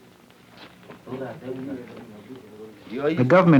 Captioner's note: murmuring